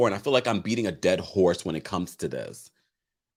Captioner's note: none